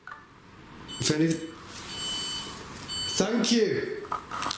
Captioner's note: device beeps